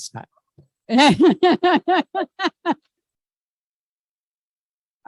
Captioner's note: laughing